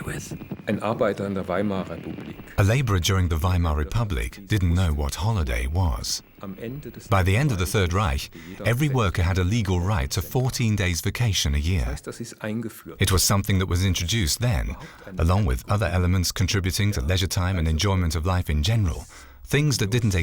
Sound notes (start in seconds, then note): 1.5 speaking german